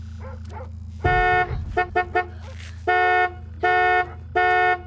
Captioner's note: car beeping